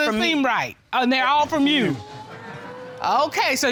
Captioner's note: audience exclaims